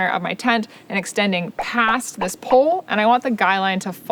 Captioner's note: pop sound